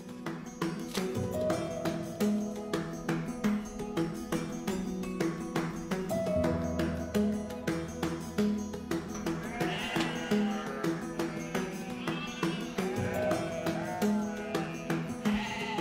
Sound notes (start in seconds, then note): 9.3 goats bleating